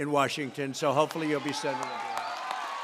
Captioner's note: applause